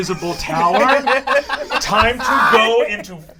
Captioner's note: all laugh